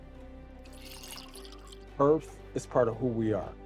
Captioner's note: water splashing